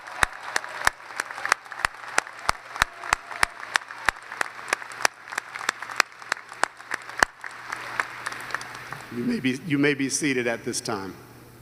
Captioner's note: applause